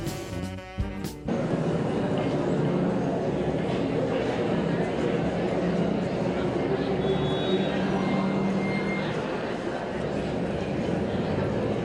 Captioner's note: subway noises